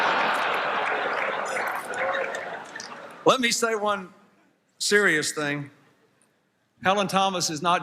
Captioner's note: laughter